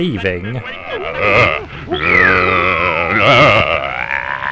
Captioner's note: captain growls